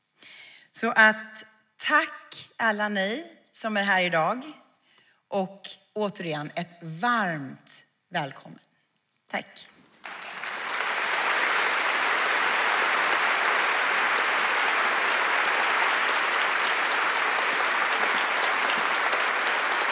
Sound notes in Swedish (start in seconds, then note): 10.0 Applåder